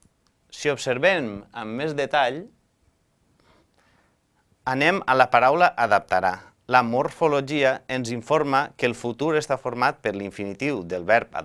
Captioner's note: in Catalan